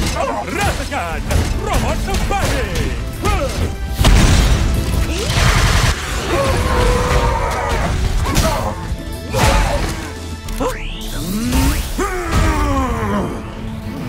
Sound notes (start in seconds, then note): 5.0 guard robots groaning; 8.1 grunts fiercely; 11.9 growls threateningly